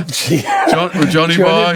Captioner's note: laughing